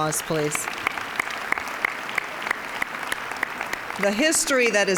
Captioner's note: applause